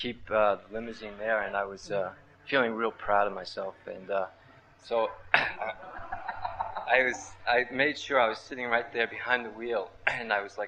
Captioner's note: laughter